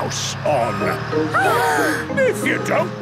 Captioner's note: children gasp